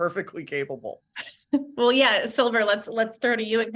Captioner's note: laughs